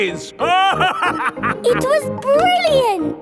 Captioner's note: laughing